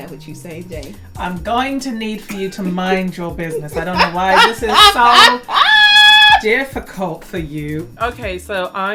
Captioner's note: laughs